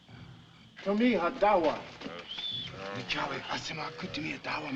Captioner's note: Harry Muttering